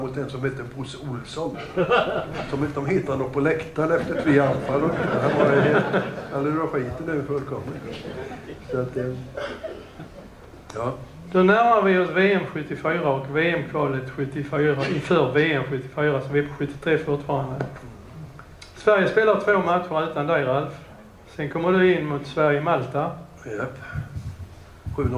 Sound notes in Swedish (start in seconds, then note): 4.0 Skratt